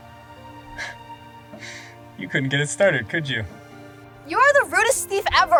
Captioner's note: chuckles